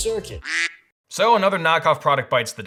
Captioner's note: duck quack